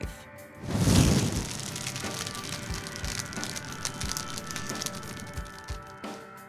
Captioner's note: sound of fire blazing